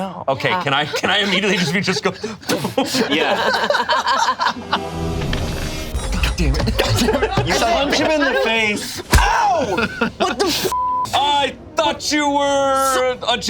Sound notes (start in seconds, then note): 4.0 group laughs; 10.7 beep